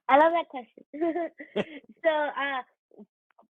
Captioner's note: chuckles